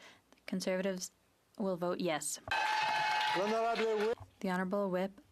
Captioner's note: speaking French